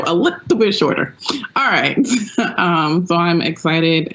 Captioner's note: laughs